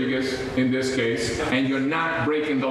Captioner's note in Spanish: habla en ingés